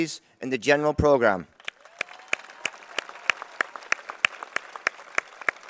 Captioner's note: applause